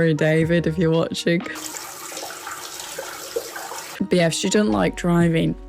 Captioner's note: water running